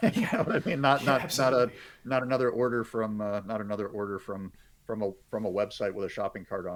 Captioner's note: laughing